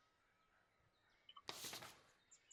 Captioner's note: paper flips